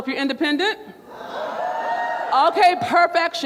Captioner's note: crowd hollers